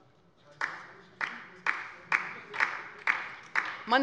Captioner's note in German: Beifall bei der LINKEN